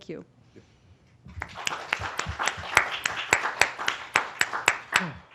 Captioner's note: applause